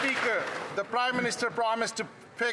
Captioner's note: some Applause